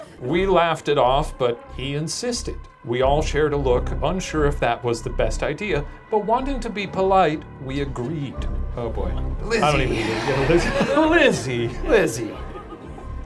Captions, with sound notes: "We laughed it off, but he insisted. "We all shared a look, unsure if that was the best idea, "but wanting to be polite, we agreed." - Oh boy, Lizzie. (sighs) - Lizzie. - Lizzie.